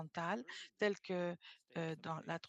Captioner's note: speaking French